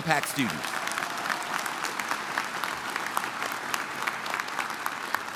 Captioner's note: audience applauding